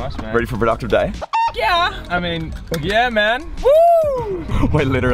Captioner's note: chicken cluck